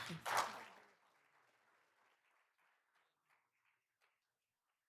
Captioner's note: all applauding